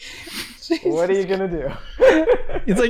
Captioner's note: chuckles